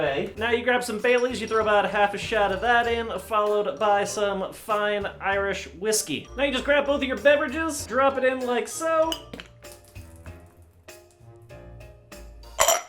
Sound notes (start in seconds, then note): 9.0 glasses clink; 12.5 glasses clink